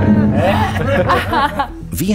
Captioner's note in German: Gelächter